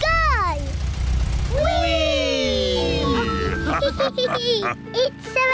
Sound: all laugh

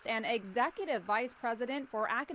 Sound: applause

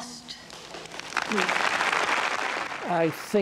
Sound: audience clapping

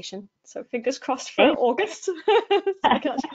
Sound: laughs

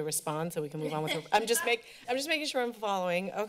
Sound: laughter

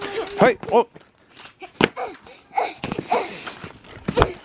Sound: grunting

